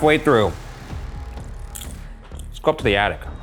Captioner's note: popcorn crunching